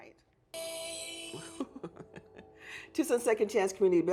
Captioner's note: ringtone plays; laughs